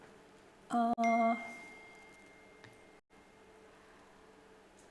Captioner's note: bell ringing